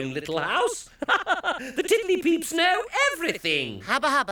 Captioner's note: laughing